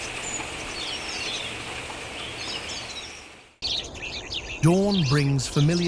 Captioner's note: birds chirping